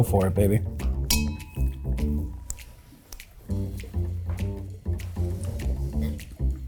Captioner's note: jazzy music; glasses clink